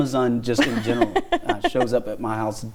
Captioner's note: laughing